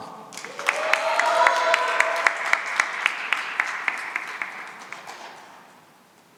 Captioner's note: cheering and applause